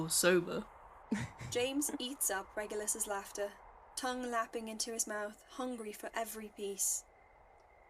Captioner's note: laughs; Regulus laughs